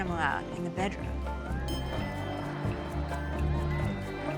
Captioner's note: cheering